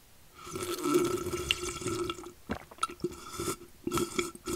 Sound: slurping coffee

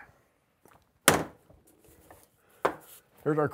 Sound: slams wood on table

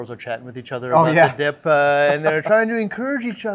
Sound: chuckle

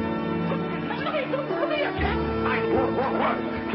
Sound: agitated squealing

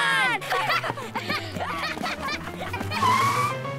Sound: laughing

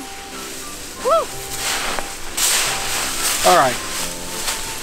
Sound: leaves rattling

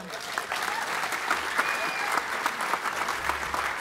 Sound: applause

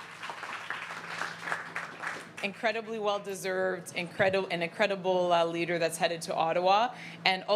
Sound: cheering and Applause

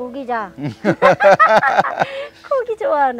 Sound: both laughing

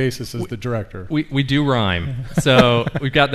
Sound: laughs

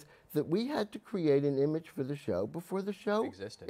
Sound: none

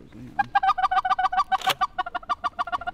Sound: goose calling

